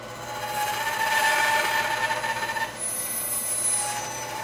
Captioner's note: tool squealing